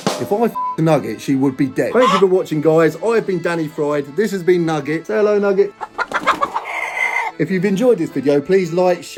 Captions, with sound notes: If I f*cked Nugget, she would be dead. (Nugget squawking) Thank you for watching, guys. I've been Danny Fried. This has been Nugget. Hello, Nugget. (Nugget clucking) (Nugget flapping wings) If you've enjoyed this video, please like,